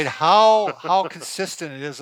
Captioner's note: laughing